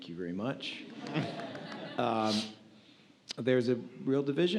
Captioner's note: audience laughs